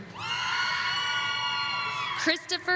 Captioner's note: audience screaming